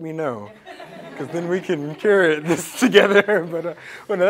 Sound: laugh

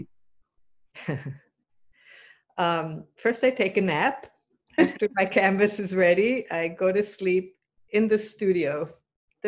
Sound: chuckles

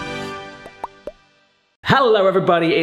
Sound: upbeat triumphant music; logo popping

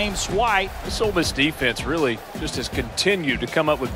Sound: voiceover

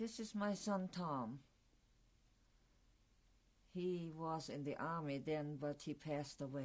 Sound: pauses for 3 seconds

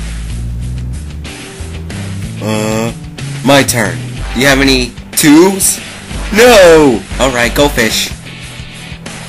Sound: mumbling to himself

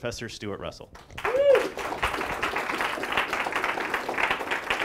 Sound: applause

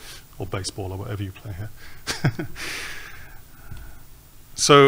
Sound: laughs

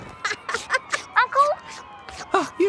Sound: laughing; on phone

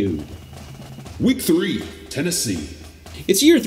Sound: automated Voiceover

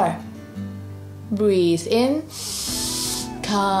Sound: breathes in deeply

